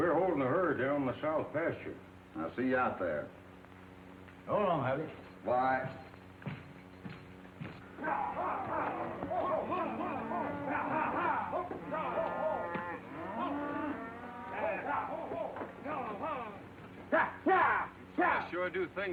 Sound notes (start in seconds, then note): 6.6 spurs jingling; 7.9 cattle lowing; 7.9 men yelling